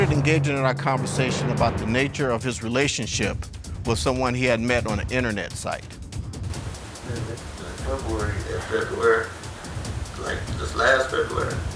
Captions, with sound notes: We started engaging in a conversation about the nature of his relationship with someone he had met on a internet site. (RECORDING PLAYS)